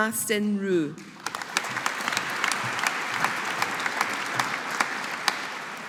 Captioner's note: audience applauding